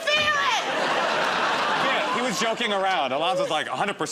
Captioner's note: laughter